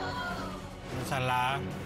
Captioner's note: audience exclaiming